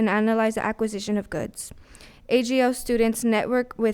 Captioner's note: none